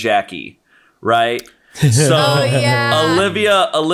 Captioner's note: all laughing